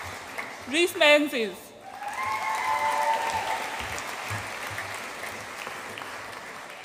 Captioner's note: audience applauds and cheers